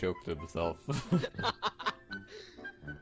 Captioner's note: laughing